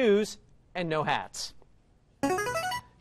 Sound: buzzer plays

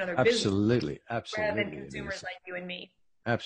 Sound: faintly speaking

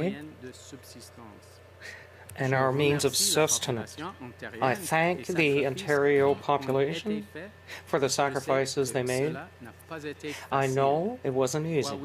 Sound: speaking French

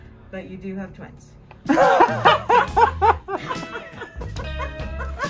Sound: couple laughs

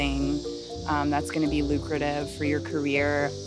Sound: water spraying

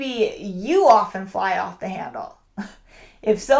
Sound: chuckles

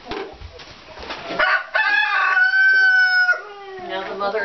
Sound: crowing

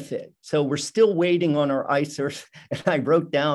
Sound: chuckles

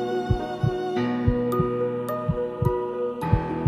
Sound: heartbeat

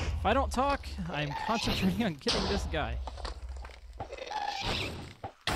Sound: explosion; ghast shrieks

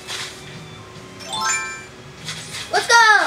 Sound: chimes as ladder appears

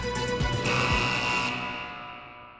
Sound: buzzing

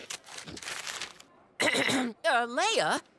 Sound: clearing throat

